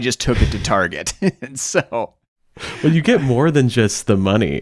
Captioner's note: laughing